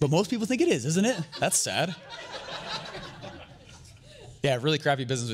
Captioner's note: audience laughter